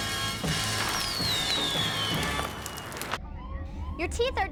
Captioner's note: firecracker whistles